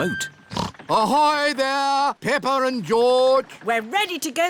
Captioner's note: snorts